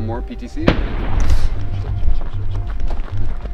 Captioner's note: gunfire